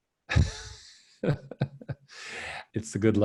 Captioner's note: laughing